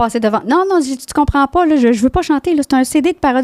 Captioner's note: in french